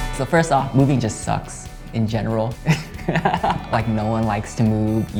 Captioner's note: laughing